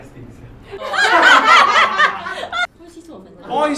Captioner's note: laughs